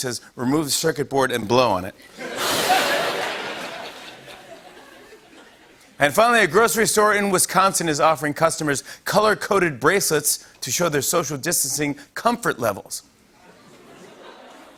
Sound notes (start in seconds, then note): 2.0 laughter